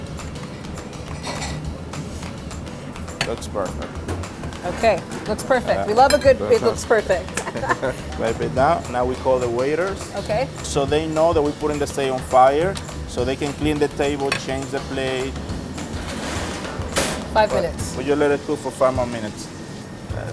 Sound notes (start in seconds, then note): 0.1 upbeat music; 7.3 laughs